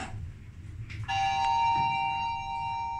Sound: up chime rings

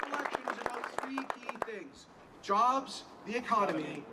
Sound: applause

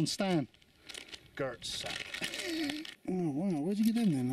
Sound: laughs

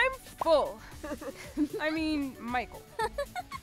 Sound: laughing

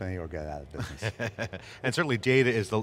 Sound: laughing

